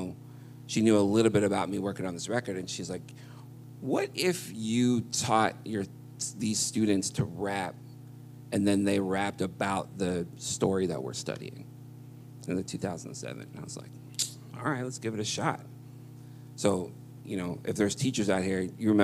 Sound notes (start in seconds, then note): none